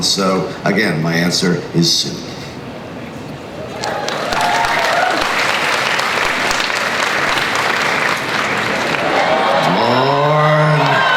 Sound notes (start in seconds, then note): 3.6 crowd cheers applauds